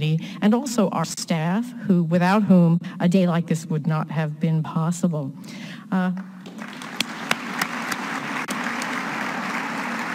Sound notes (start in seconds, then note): 6.4 all applauding